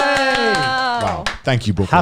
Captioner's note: cheering; clapping